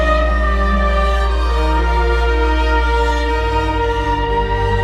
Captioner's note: none